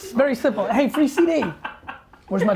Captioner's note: laughter